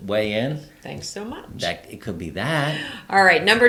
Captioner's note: laughs